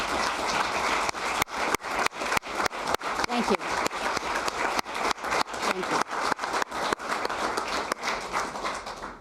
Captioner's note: applause